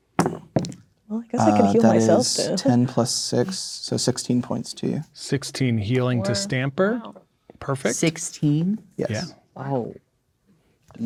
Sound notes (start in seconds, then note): 0.5 dice rolling; 6.7 speaking quietly